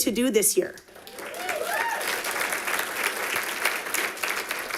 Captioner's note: audience applauding